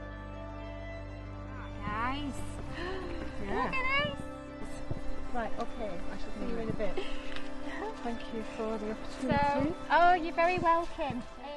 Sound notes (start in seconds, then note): 0.0 peaceful music continues; 5.3 incidental chatter